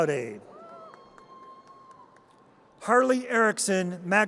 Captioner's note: audience cheers